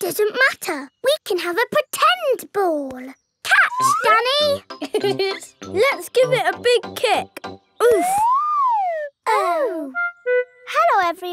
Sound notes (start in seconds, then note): 4.8 laughs